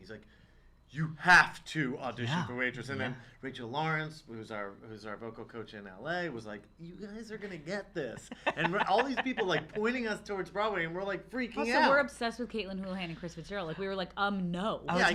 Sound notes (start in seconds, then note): 8.0 laughs